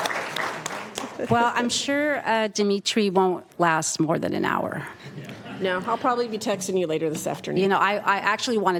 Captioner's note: applause